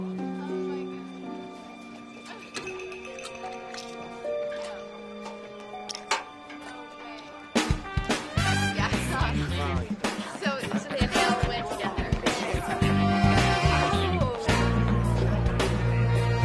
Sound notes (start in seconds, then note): 0.1 upbeat music; 8.8 students chatting indistinctly